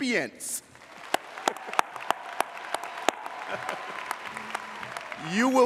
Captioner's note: audience applauding